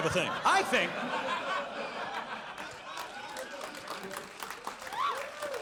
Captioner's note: audience laughs and applauds